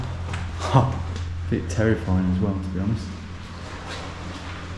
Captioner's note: chuckles